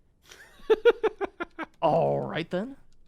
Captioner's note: laughing